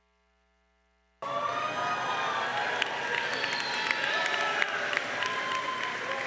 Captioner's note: crowd cheering and applauding